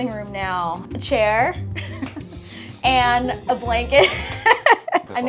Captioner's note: chuckling; laughing